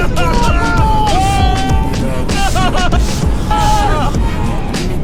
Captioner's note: screaming